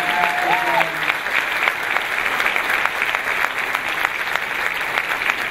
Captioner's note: clapping